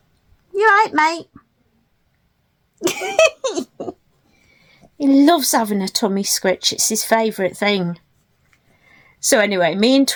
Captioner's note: laughs